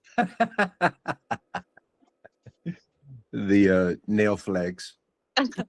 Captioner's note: laughs